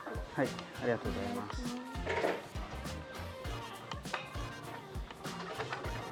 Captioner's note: Speaking Japanese